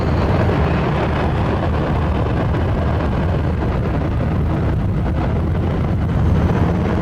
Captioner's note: engine rumble